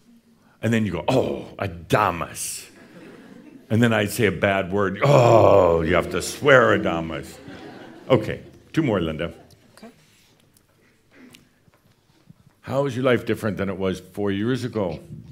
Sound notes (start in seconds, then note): 9.6 more chuckles